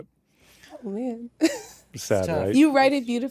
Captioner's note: chuckles